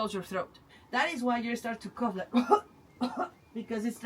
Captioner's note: coughs